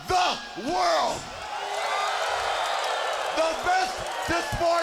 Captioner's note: crowd cheers